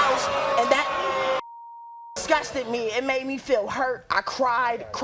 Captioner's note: beep